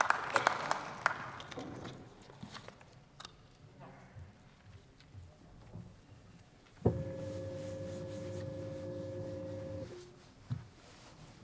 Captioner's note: applause from the LEFT